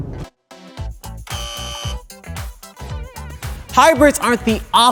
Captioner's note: buzzer